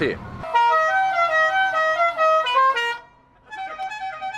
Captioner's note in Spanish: Bocina de "The Godfather"; Otro le responde con otra bocina